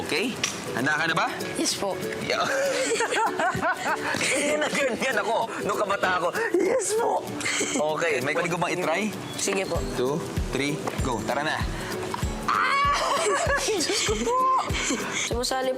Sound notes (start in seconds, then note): 2.4 chuckles; 7.0 in hoarse voice